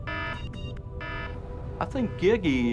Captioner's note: alarm blaring